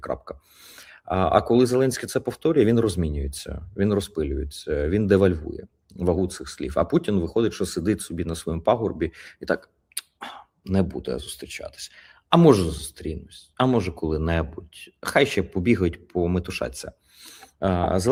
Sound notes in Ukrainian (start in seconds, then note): 10.2 прочищення горла